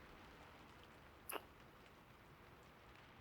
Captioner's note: kiss